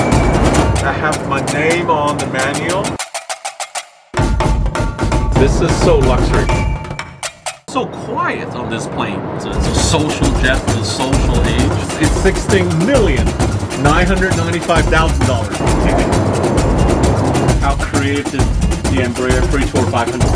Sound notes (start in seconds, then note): 15.6 laughs